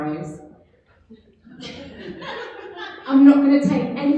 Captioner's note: audience laughter